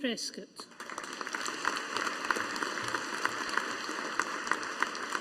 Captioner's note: audience applauding